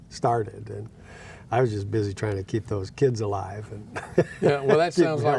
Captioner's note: laughing